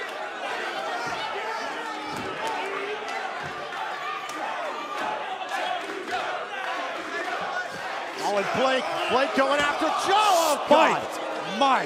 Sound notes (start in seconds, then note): 1.9 cheers and applause